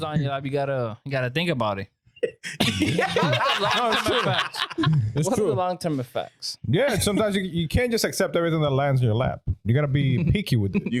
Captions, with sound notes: like, "You gotta think about it." (Laughing) That was too fast. It's true. What are the long-term effects? Yeah, sometimes you can't just accept everything that lands in your lap. You gotta be picky with it.